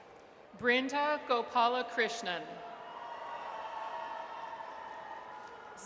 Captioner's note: audience cheers